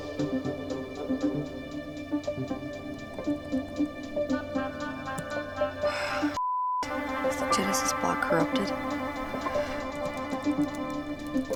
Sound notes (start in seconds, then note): 5.7 sighs